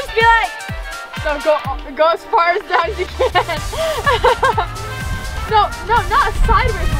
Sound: laughing

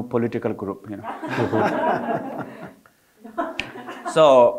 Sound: audience laughing

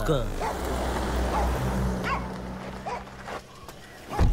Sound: dog barks

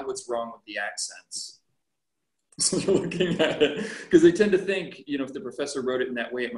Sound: laughter

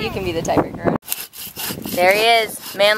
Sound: sawing

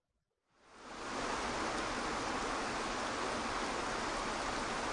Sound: waterfall pattering

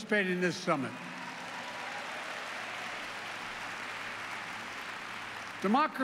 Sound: applause

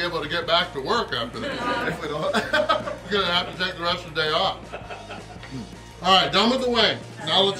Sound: haha

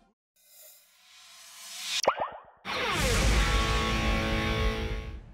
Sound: boing

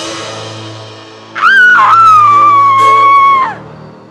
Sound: woman screams

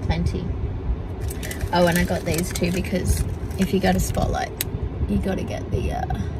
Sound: bag rustles

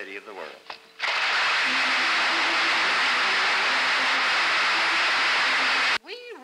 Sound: applause

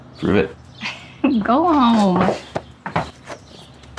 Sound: laughs

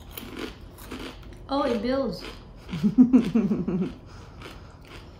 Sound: laughs

